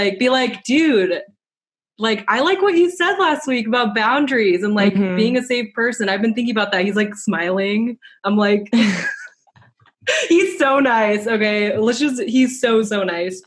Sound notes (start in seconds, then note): 8.8 laughs